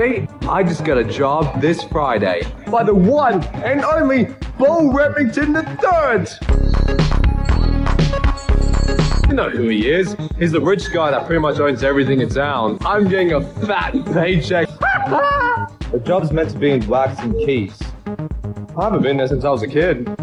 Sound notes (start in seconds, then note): 6.6 fun pop music; 14.7 manic laughter